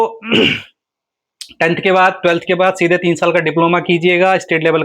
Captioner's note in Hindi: गला साफ़ करने की आवाज़